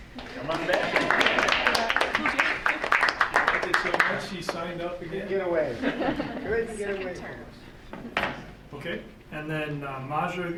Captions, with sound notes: >>Come on back. (audience applauding) >>Did so much, she signed up again. >>Couldn't get away. Couldn't get away from us. >>Okay, and then Maja